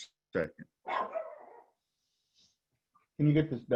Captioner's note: dog barks